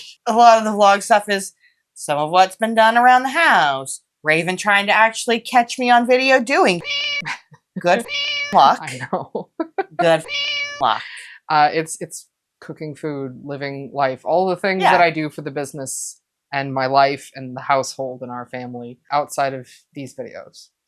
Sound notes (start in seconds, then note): 7.8 meow